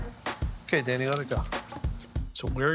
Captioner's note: spatula lightly thudding